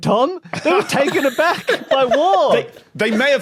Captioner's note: giggle